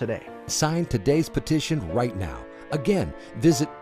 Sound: voiceover

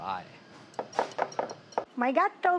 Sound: bowl clanking

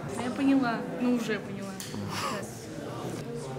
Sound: laughs

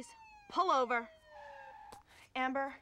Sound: siren ilwaing

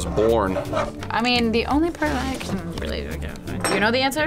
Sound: grumbles

